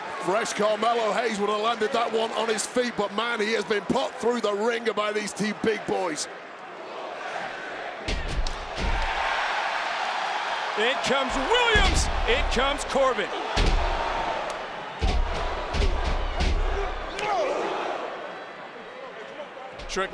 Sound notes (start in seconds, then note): 7.1 crowd chanting; 9.2 crowd cheering; 13.4 crowd cheering; 15.1 wrestlers stomping; 18.0 hand smacks